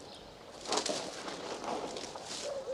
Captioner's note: rustling